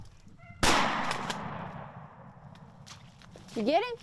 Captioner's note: gun fires